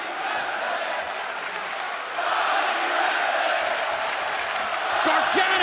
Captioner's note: fans chanting